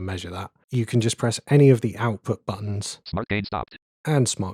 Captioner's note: automated voice